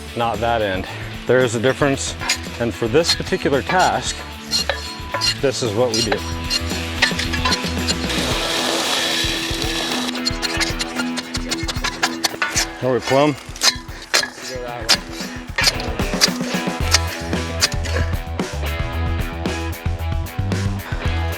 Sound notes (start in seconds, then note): 4.4 metals clanking; 4.4 screeching; 6.9 metals clanking; 6.9 upbeat music; 8.4 drilling; 10.5 metals clanking; 10.5 upbeat music; 13.8 metals clanking; 16.7 upbeat music